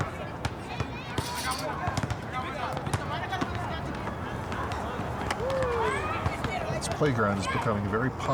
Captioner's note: people talking in the background